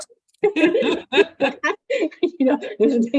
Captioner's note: both laugh